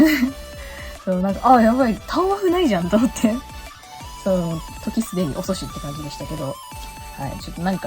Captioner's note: laughs